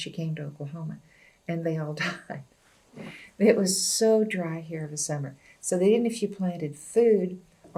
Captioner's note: laughs